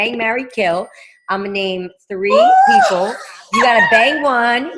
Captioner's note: laughing